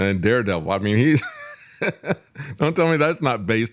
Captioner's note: laughs